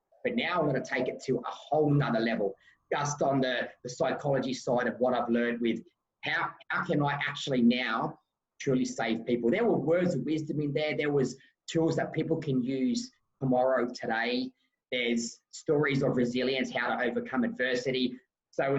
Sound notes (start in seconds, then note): none